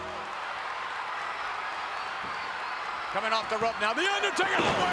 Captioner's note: applause